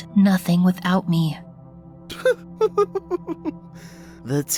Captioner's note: chuckling